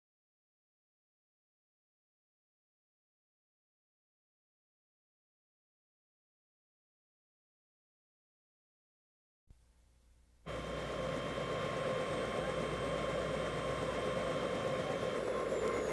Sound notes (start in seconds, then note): 10.4 helicopter blades whirring